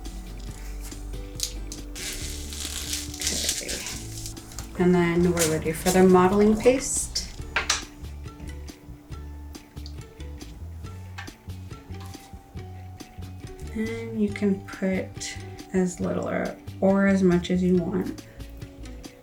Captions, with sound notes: (material crinkling) Okay. (material swishing) And then, we're ready for the modeling paste. (cover swishing) (cover thudding softly) And you can put as little or as much as you want.